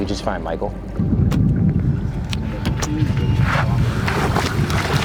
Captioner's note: water splashing